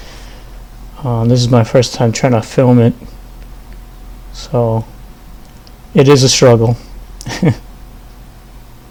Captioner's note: laugh